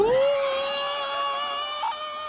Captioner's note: intense screaming